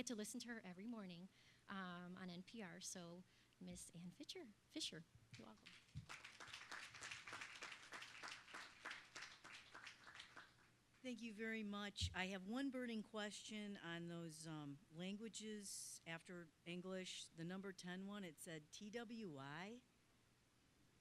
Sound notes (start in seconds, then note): 5.4 applause